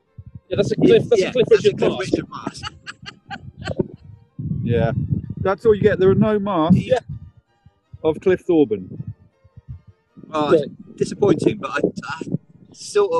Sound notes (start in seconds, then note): 1.0 laughter